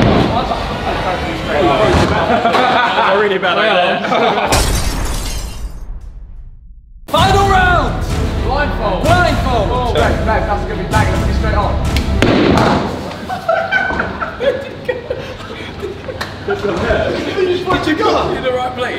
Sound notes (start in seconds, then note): 4.5 glass shattering; 13.0 lads laughing